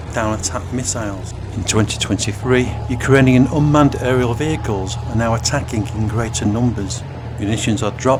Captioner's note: drones